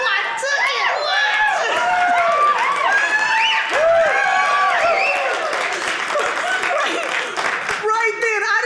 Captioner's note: audience cheering